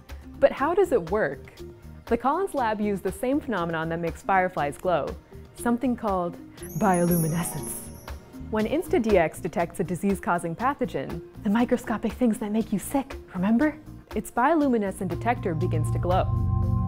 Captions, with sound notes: but how does it work the Collins lab used the same phenomenon that makes fireflies glow something called bioluminescence when InstaDX detects a disease-causing pathogen [whispering] the microscopic things that make you sick remember its bioluminescent detector begins to glow